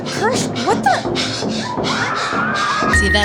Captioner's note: screaming. Yelling. Oh geeze